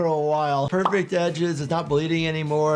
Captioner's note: image pops